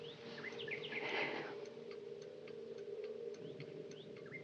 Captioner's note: inhales deeply; exhales